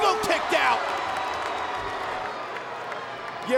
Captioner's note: audience cheering and clapping